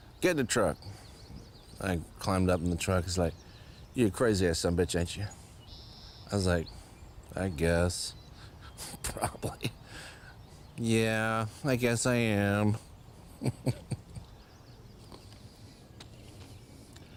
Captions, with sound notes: Get in the truck?" I climbed up in the truck. He's like, "You're a crazy ass son of bitch, ain't you?" I was like, "I guess. Probably. Yeah, I guess I am." [laughs]